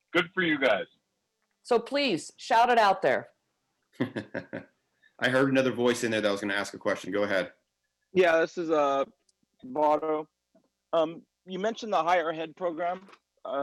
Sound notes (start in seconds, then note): 4.0 laughter